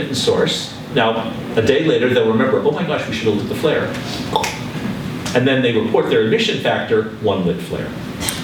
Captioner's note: tongue click